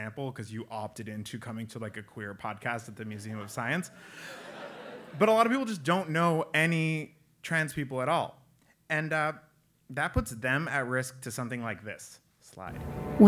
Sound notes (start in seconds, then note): 4.2 laugh